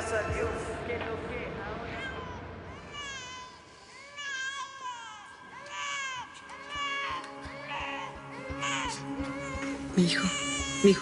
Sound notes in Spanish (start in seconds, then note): 2.6 llanto de bebe